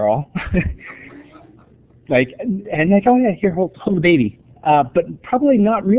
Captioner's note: laughter